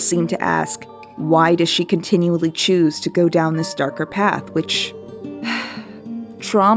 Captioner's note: sigh